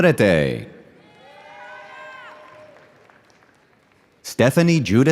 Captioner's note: audience cheering